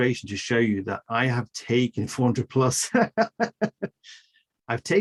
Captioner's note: laughs